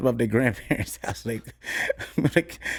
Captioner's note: laughs